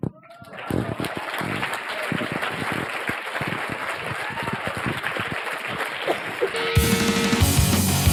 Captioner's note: applause